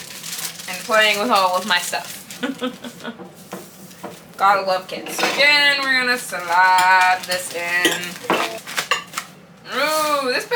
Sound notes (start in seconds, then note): 2.4 laughs